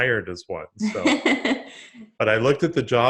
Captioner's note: laughs